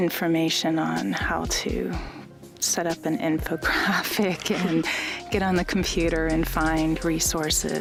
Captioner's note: laughs